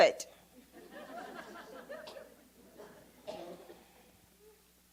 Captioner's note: audience laughs